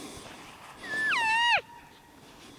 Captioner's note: caller cow calling